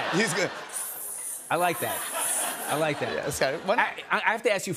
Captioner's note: imitates sizzling